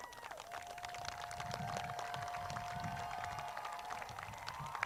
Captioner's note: crowd claps